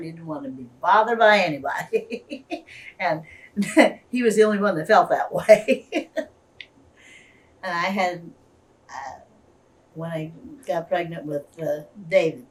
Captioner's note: laughs